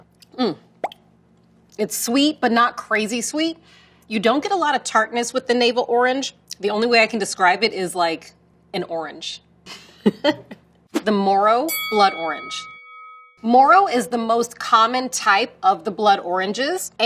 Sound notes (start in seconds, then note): 11.6 bell dings